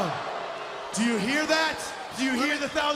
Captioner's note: crowd cheering